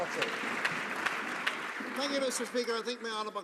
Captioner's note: some Applause